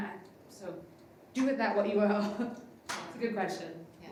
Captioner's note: laughs